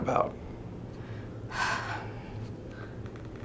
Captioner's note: sigh